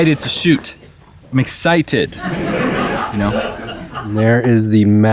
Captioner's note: crowd laughing